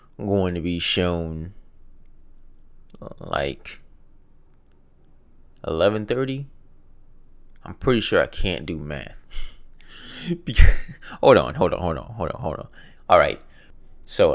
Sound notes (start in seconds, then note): 9.8 laughs